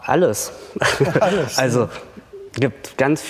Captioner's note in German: lacht